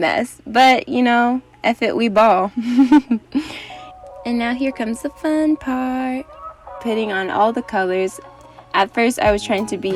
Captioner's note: giggles